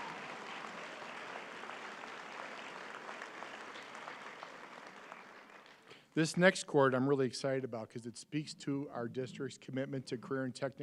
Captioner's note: applause